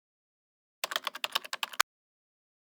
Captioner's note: typing